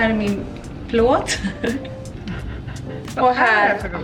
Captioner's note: laughs